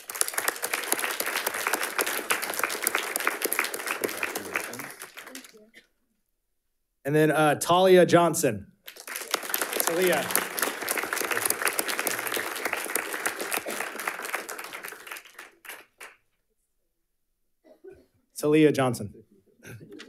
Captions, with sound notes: (audience applauding) Congratulations. - Thank you. And then Talia Johnson. (audience applauding) It's Aaliyah. It's Aaliyah Johnson.